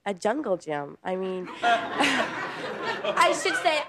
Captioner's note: audience laughs